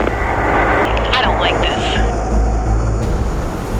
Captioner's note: voiceover